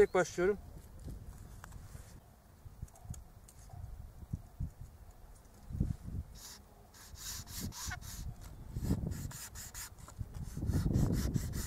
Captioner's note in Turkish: Kesme sesi